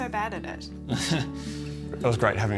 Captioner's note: chortles